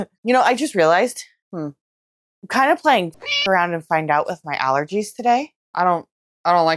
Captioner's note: meow